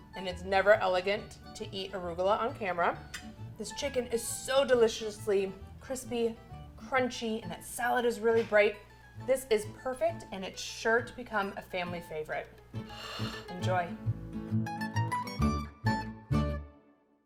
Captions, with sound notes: and it's never elegant to eat arugula on camera. This chicken is so deliciously crispy, crunchy, and that salad is really bright. This is perfect and it's sure become a family favorite. (plate scrapes) Enjoy. (bright upbeat music)